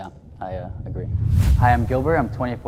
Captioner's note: whoosh air